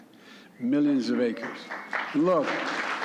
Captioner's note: applause